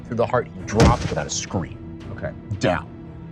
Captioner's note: thud